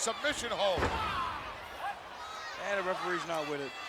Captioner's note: Diesel screams